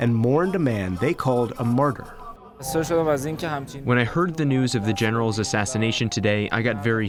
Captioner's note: through translator